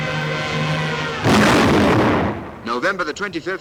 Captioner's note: adventurous music; bomb exploding